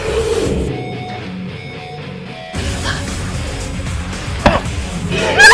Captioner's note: roar; thunk; roar